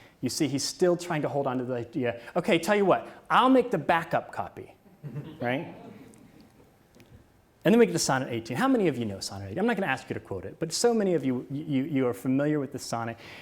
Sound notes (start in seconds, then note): 5.0 audience laughs